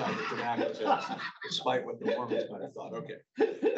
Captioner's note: laughing